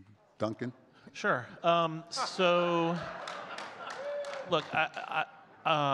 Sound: audience laughs and claps

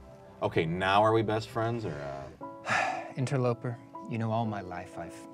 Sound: sighs

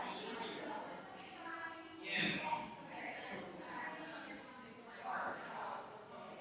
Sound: people chattering distantly continues

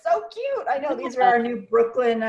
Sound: laughing

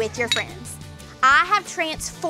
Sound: glasses clinking

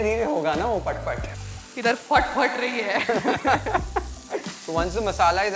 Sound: both laugh

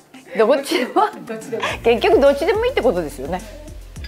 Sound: laughter

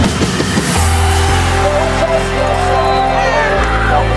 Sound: mass cheer of excitement; whistle of victory

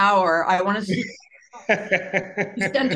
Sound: laughing

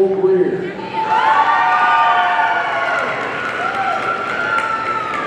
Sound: audience cheering

